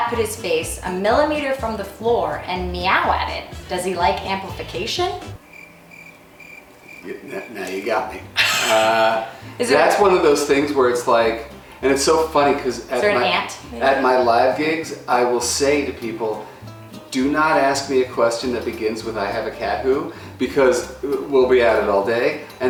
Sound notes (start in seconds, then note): 5.3 crickets chirping